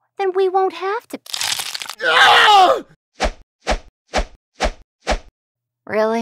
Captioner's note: Flesh tears as The Medjai screams angrily as air-slices sound off